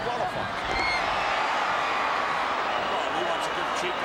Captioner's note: audience cheering